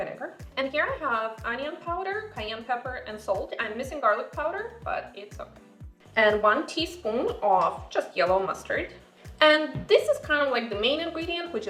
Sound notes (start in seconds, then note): none